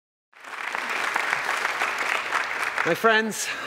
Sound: applause

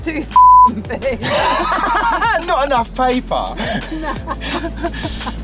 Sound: laughing loudly

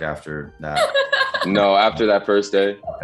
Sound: Madison laughing

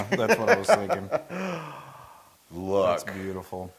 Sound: laugh

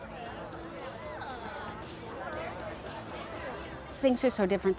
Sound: sounds of crowd interacting with staff

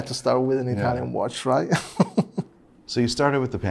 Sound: laughs

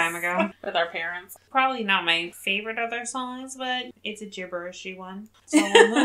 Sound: laughs

